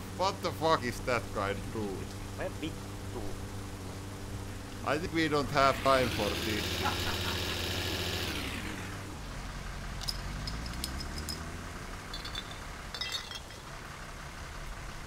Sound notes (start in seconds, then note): 2.4 character speaks Finnish; 7.1 engine accelerates; 10.1 bottle cap clatters; 12.9 many bottles clink